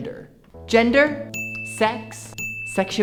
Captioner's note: sound of bell ding